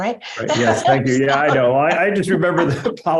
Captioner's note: laughter